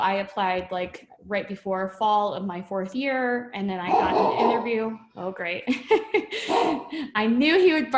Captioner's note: dog Barking